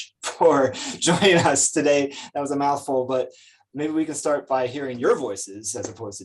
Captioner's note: chuckles